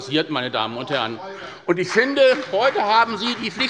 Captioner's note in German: Beifall bei Abgeordneten der SPD und bei der FDP